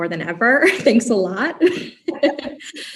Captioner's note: laugh